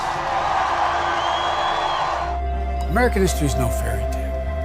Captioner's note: applause